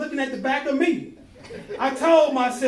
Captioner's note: laughing